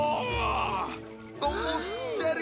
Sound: gasps

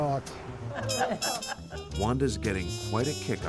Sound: and friends laughing

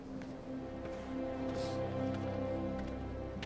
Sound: sniffling

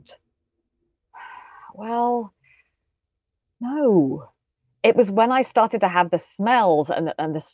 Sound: sighs

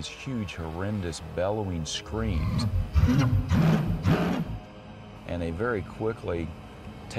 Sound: animal roaring

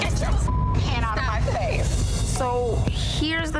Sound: beep

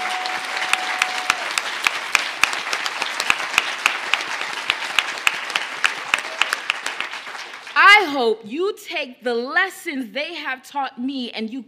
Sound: cheers and applause

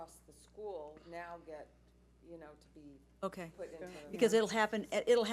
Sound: speaks faintly

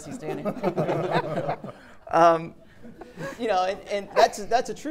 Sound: audience laughing

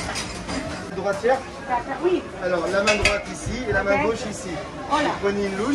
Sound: speaking in foreign language

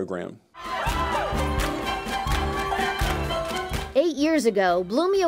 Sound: clapping and music

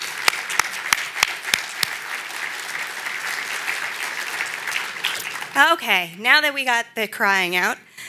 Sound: applause

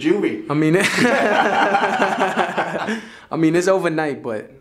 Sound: laughs

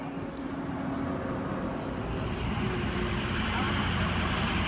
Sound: cars passing

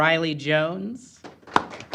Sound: applause

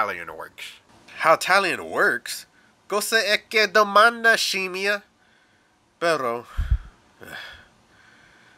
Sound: sighs

